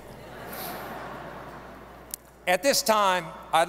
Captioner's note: audience laughing